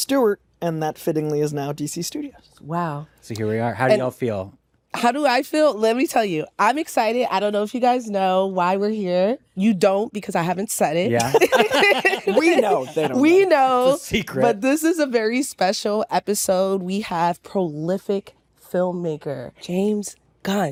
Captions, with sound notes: and that, fittingly, is now DC Studios. -Wow. -So here we are. How do y'all feel? How do I feel? Let me tell you, I'm excited. I don't know if you guys know why we're here. You don't because I haven't said it. -Yeah. -(ALL LAUGHING) -We know. They don't. -We know. It's a secret. But this is a very special episode. We have prolific filmmaker James Gunn